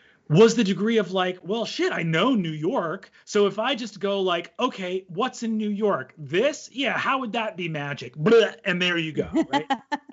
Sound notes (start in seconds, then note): 7.5 imitates vomiting; 9.2 laughs